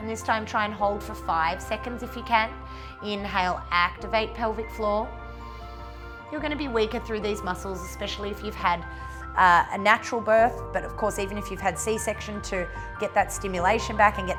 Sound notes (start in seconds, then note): 5.2 inhales